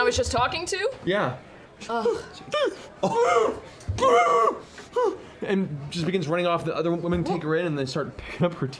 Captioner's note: muffled screams